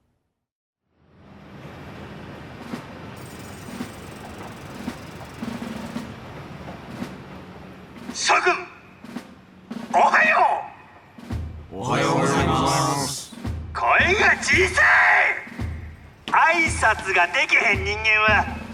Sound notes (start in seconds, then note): 15.0 shouting